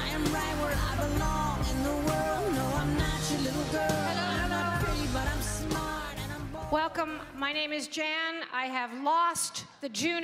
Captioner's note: cheering and Applause